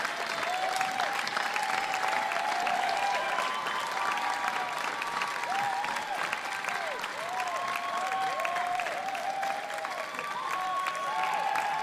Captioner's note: applause